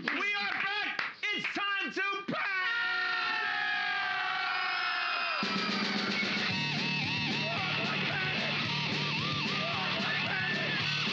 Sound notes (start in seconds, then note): 2.6 loudly screaming; 5.4 snare drum pounding; 5.5 hard rock music